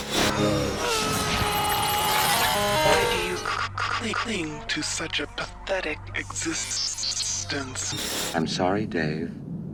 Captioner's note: NEO screams